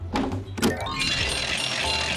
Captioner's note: bell ringing